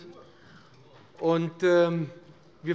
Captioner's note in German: Zurufe von der CDU: Nur?